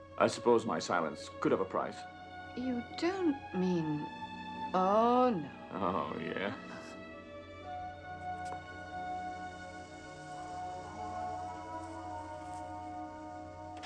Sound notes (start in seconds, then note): 7.0 slow music; 8.4 footsteps